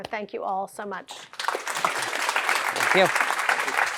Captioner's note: applause